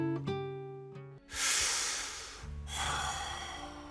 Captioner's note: deep breath